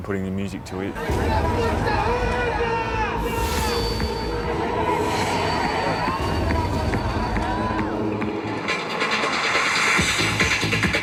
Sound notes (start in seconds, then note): 1.6 flames roaring; 5.9 upbeat music